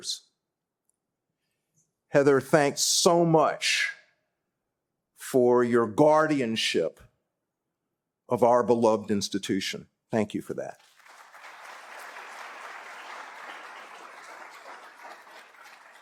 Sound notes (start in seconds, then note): 10.7 applause